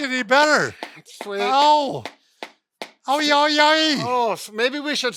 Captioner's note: expressing pain